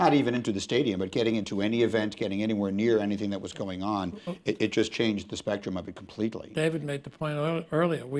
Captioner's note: none